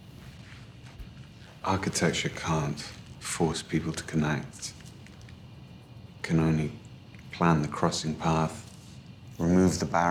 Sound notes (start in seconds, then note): none